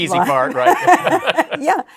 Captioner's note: laughs